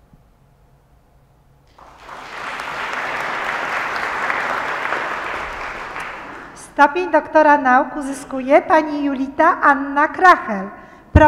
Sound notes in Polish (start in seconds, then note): 1.6 oklaski